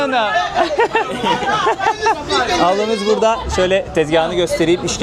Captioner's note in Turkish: kahkaha